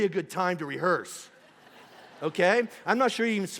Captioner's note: congregation laughing